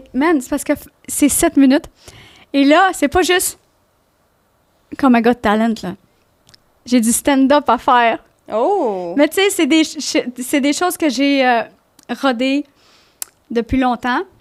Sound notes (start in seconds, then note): 0.4 in french